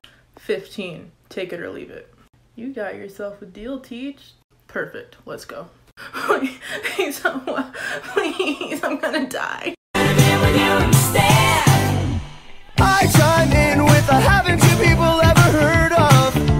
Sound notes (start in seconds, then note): 6.0 crying